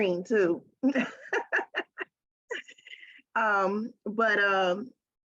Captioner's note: laughing